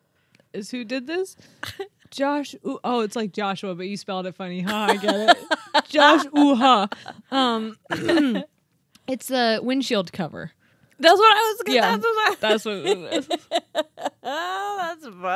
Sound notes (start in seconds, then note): 6.8 laughing; 7.9 clears throat; 11.6 laughing